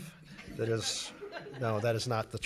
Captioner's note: laughing